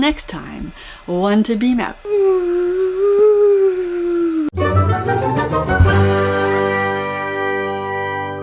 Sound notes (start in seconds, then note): 2.3 whoooo; 4.5 end music